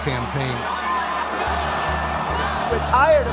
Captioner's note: chanting